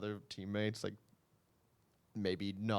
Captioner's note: silence